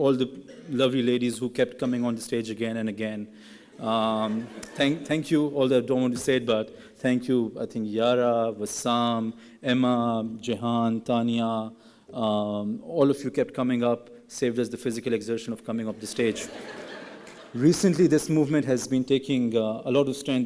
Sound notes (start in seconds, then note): 17.0 laughing